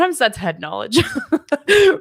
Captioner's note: laughs